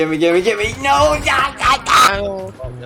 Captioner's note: frustration sounds